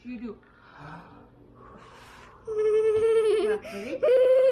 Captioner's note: breathing